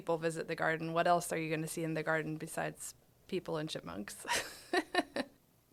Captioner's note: laughing